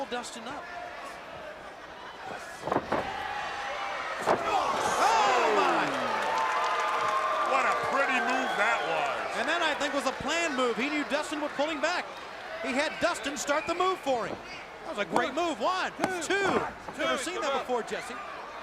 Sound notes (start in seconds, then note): 1.2 crowd chatter; 6.4 crowd cheering